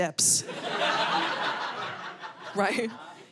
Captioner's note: audience laughing